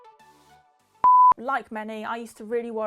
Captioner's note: beeps